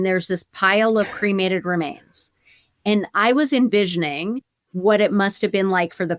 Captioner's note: chuckles